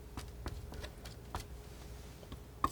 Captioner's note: scratching